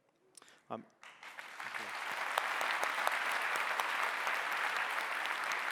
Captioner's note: audience applauding